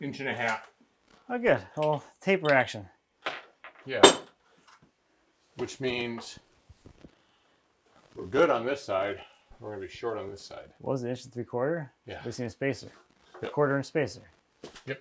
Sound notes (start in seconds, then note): none